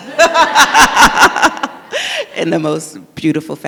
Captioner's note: all laugh